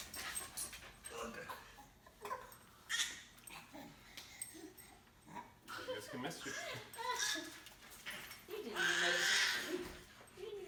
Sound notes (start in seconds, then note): 1.5 grunting; 2.9 baby squealing